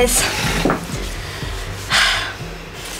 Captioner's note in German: Joyce seufzt